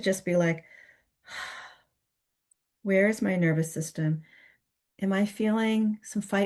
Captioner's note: gives an example of rest with a sighs